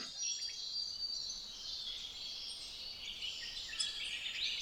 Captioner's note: birds singing